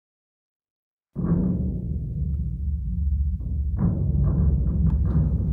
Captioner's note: big beating sounds